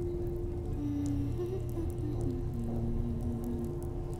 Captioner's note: happy humming